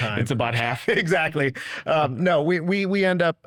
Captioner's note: chuckles